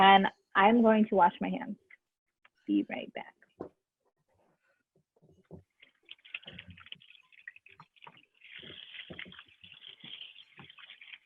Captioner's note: water pouring